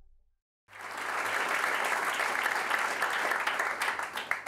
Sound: audience applauding

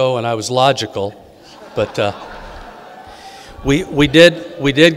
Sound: audience laughing

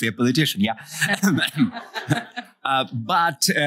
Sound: laughter

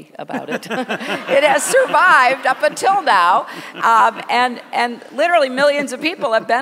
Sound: laughter

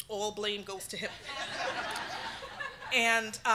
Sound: audience laughing

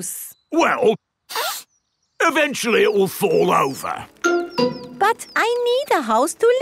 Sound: sniffs

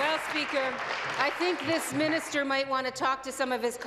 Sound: applause

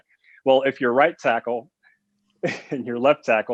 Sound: laughs

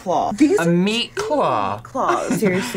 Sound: laughs

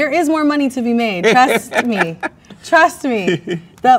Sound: man laughs

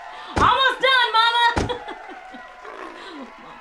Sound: applause; thud; snarl

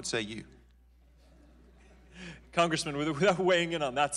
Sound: laughter

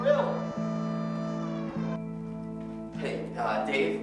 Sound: SIRENS end

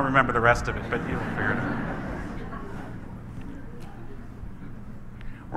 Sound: audience laughs

